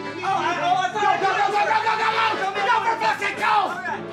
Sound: yelling at eachother

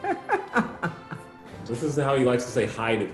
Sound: laughing

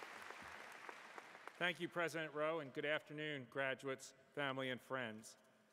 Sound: applause

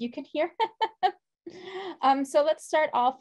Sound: laughs

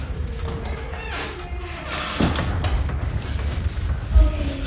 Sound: door squeaking

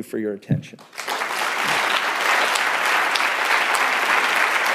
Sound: applause

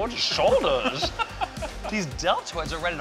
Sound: laughing

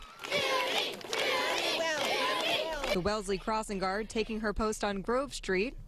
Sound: cheers and applause

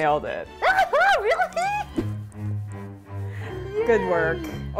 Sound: excitedly

